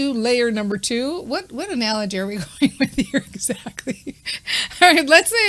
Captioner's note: laughing